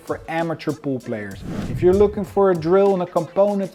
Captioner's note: upbeat music; transition whooshes